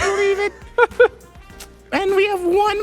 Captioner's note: laughs